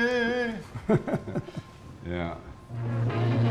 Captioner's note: laughter